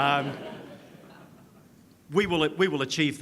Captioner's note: audience laughs